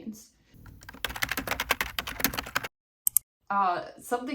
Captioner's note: keyboard typeing sound effect